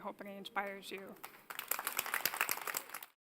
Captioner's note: applause